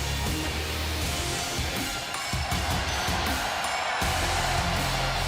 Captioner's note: cheers and applause